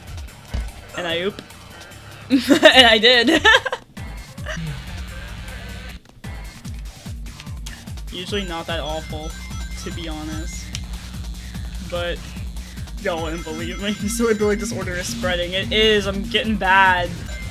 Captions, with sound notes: And I oop. [Chuckles] And I did! [Laughter] Usually not that awful to be honest. But y'all wouldn't believe me. "The silly billy disorder is spreading," it is! I'm gettin' bad!